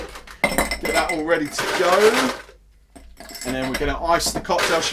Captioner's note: ice rattling